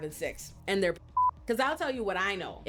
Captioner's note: beep